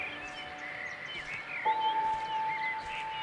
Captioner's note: birds chirping